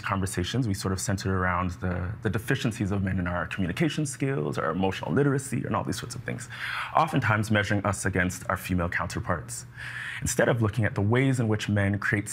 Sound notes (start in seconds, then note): none